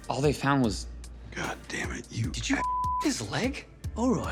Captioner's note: beep